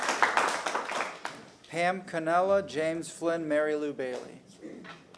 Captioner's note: applause